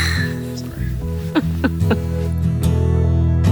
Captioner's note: laughs; light music continues